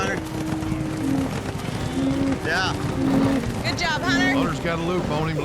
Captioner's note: hoofbeats